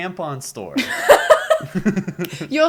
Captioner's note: laughter